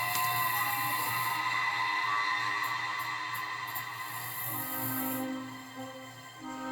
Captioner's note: crickets chirping